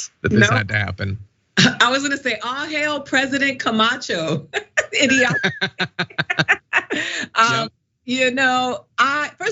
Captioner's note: laugh